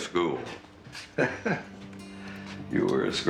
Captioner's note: Nick chuckling